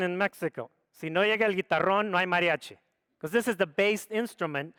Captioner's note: speaks foreign language